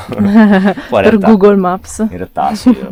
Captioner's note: laughter